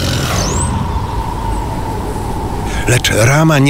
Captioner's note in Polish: szum wiatru